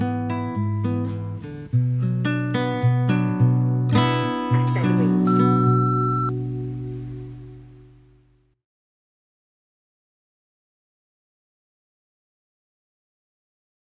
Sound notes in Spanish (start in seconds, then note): 4.5 Bip contestador automático